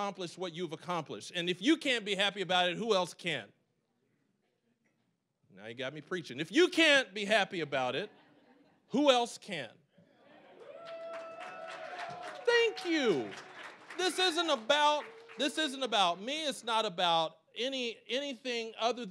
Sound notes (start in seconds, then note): 6.5 audience laughing; 10.6 applause, cheering